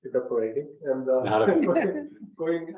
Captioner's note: members laugh